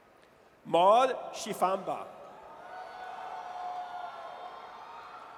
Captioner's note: audience cheers